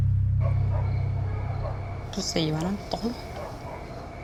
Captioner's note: insects chirping